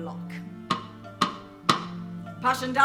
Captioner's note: 3 knocks